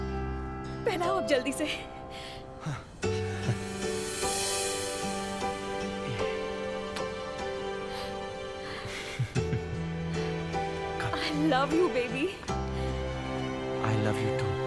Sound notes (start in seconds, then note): 8.8 Shorya chukles